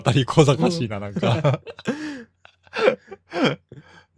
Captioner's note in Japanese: 笑い